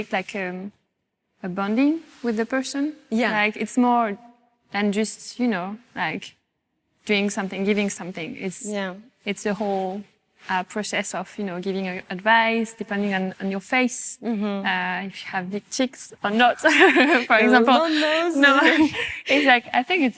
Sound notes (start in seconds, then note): 16.7 laughs